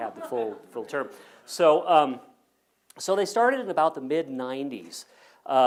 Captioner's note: laugh